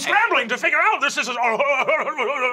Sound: stutters

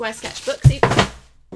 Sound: box clatters on floor

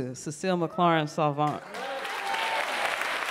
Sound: applause

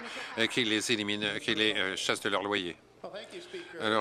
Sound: applause

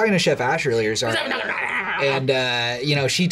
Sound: grumbles

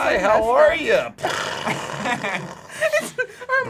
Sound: mimics explosions

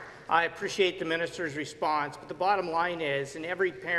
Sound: applause

